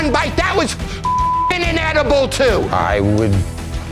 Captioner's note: beep